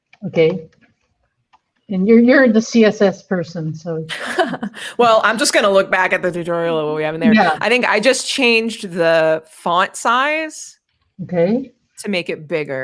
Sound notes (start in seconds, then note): 4.1 laughs